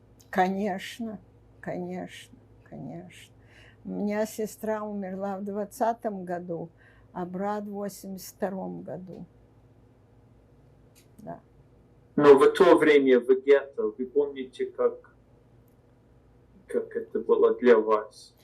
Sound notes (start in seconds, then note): none